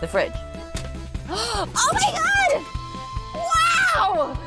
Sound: gasps

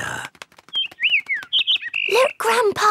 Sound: bird

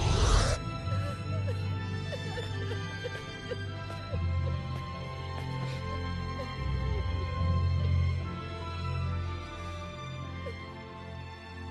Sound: crying

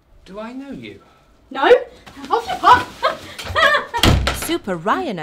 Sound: door slams

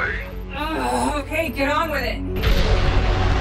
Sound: groans; dramatic synth music; rocket roars

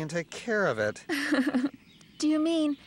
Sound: laughing

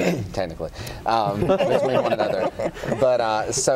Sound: laughter

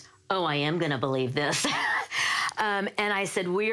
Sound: laughs

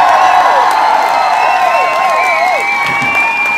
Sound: crowd cheers

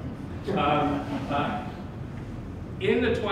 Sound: laughter

